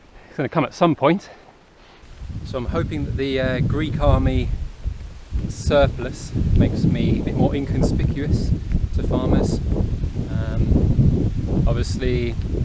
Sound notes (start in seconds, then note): none